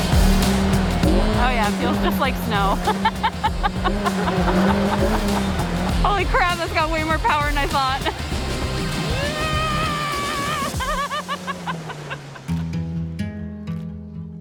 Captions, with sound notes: Oh yeah, feels just like snow. (laughs) Holy crap, that's got way more power than I thought. (screams)